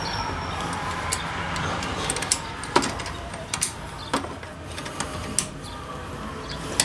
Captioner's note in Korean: 근처에 있는 고등학교에서 학생들이 고함치는 소리 ㅋㅋㅋ